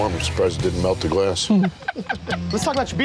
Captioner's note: laughter